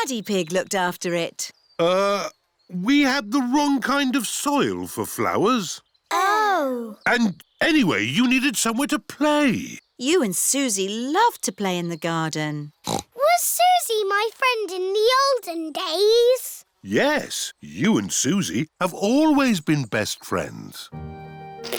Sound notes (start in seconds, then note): 12.8 snorts